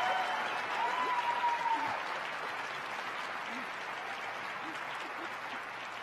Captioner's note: crowd applauding